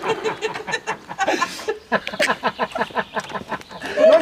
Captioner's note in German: Sie lachen herzhaft